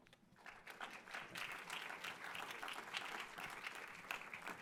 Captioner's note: audience applauding